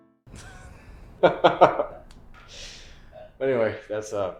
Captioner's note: Bob laughs